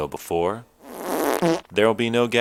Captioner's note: fart sound effect plays